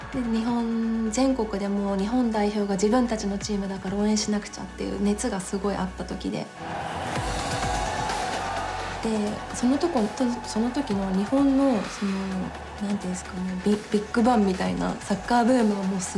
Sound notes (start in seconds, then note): 6.7 crowd cheering